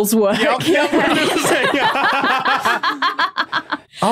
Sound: guests laughing

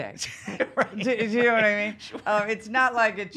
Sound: laughing

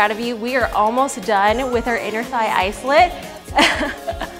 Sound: laughs

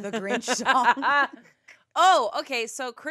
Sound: laughs

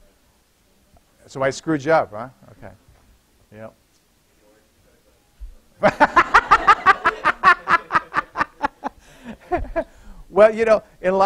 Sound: laughter

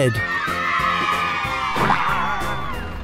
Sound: cheers

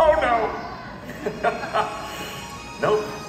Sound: laughs

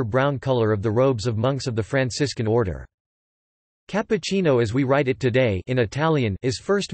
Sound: in Italian

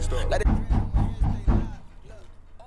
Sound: sudden loud knocking on the front door interrupts music

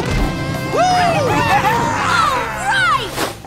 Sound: cheering

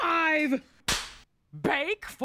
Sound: cracks pointer

